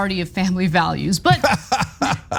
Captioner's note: laugh